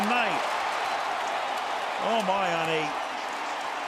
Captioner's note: cheering